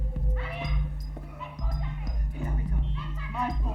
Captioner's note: people yelling